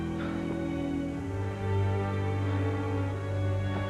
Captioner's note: moans; breathing heavily